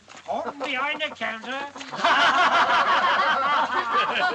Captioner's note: all Laughing